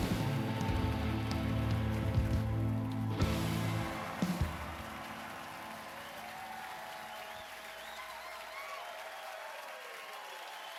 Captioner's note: cheers and applause